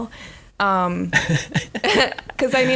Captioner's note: laughing